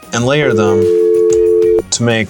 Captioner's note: dial tone